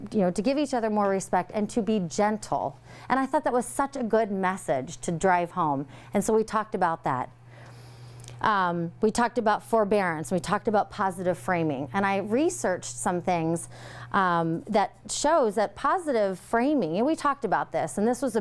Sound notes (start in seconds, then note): none